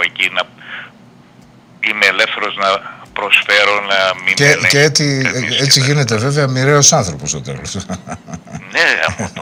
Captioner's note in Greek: γέλια